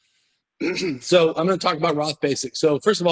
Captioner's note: clear throat